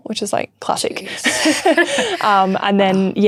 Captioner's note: both laughing